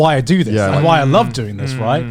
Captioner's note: affirmative murmuring